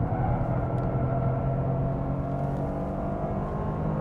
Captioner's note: engine raging